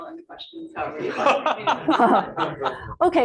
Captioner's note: laughter